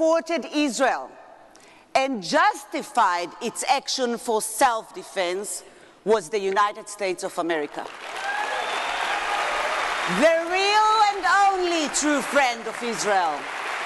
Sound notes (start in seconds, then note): 7.8 audience clapping